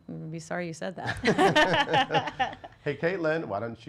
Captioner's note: laughs